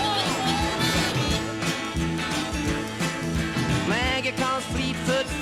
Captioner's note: people shout